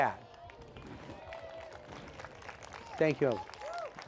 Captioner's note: applause